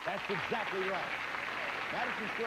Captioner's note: audience applauding